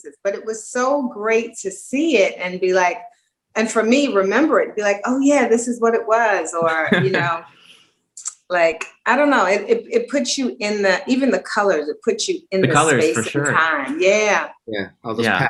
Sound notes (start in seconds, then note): 6.6 laughing